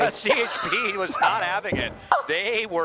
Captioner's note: laughter